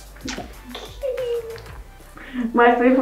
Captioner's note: giggles